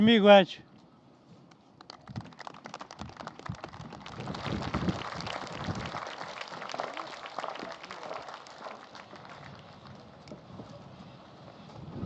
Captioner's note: applause